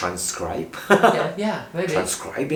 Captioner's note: laughs